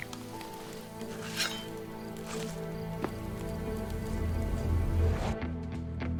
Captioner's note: somber music; weapon scraping